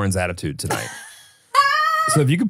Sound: laughs

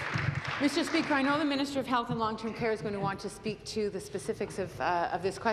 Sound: applause

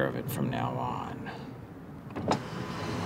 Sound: car window going up

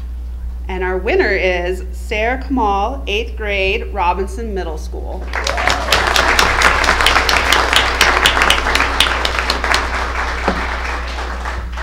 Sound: applause

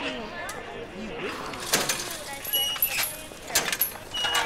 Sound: metallic squeaking

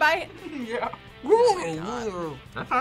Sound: laughs

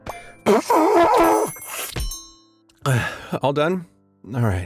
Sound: blowing

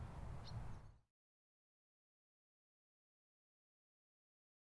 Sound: birds chirping

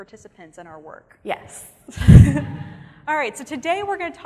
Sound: audience laughing

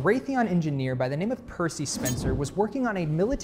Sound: photo whooshing

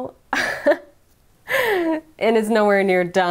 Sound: laughing

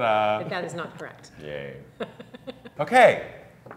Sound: laughs

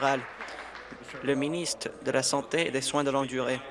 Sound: applause

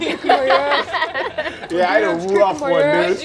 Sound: players laughing

